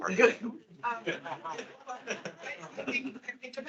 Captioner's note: attendees laughing